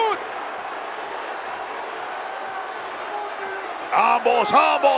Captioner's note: applause